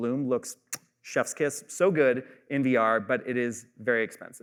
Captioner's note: kisses fingertips